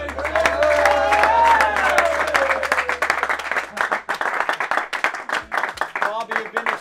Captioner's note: applause/cheers